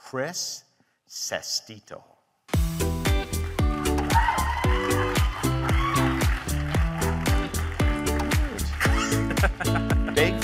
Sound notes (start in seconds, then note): 2.4 bright music; 3.2 audience cheering and applauding; 8.8 laughing